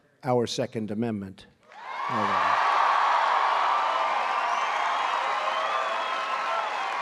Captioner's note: applause